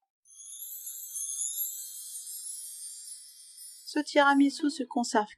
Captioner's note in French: 🎶 Son Féérique 🧚‍♀️🎶